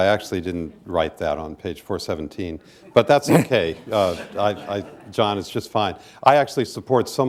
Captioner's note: laughter